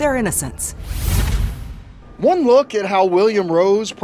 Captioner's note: air whooshes